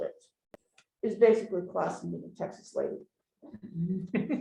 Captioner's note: chuckling